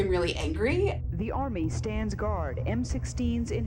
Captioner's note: soundbite of archived recording